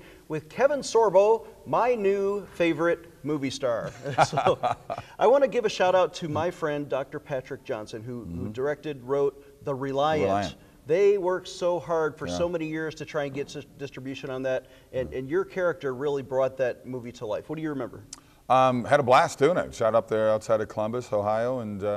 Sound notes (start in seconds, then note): 3.8 laughing